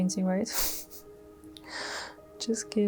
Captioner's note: chuckles